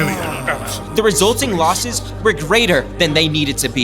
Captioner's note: guffaws from crowd